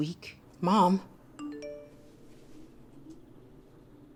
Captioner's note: phone beeps